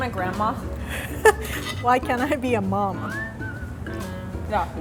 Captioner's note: chuckles